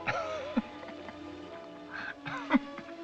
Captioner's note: laughs